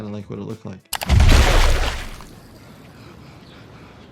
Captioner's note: loud splash